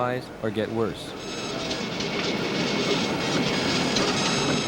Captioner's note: printer clicking